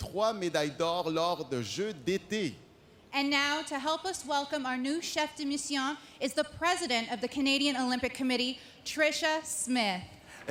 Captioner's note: speaking French